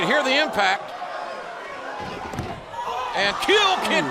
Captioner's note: crowd cheering